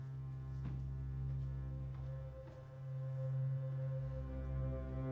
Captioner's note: footsteps tapping